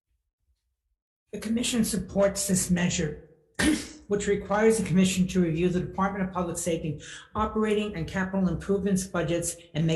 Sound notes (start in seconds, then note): 3.5 coughs